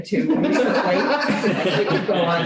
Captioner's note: laughter